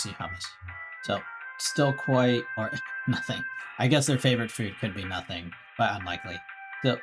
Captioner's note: chuckles